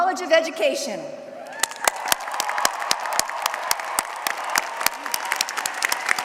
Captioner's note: applause